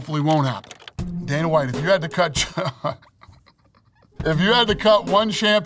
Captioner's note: laughing